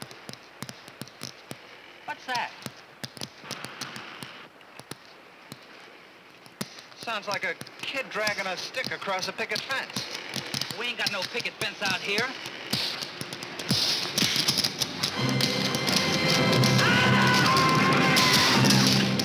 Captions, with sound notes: What's that? (TAPPING) Sounds like a kid dragging a stick across a picket fence. We ain't got no picket fence out here. (SCREAMS)